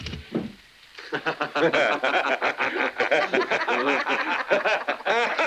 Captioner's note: patrons laughing